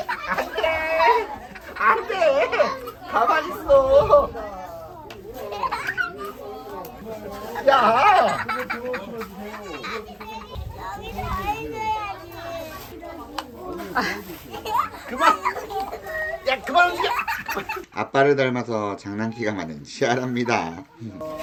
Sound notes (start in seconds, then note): 7.6 laughing; 8.6 breathtaking laughter